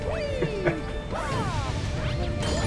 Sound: laughs

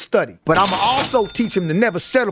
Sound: cash register ringing

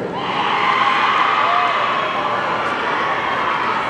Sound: audience cheering

